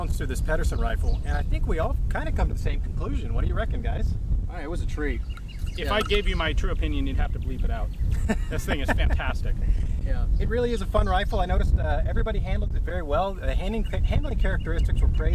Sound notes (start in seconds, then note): 8.0 laughs